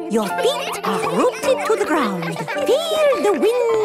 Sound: all giggling

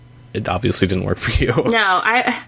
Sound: laughs

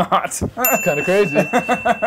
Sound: bell rings

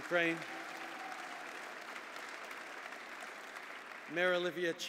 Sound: applause

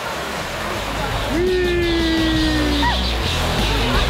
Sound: cheering; upbeat music

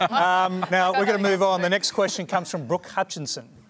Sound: laughter

